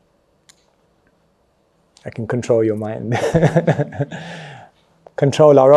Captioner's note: laughs